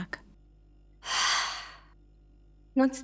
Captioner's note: sigh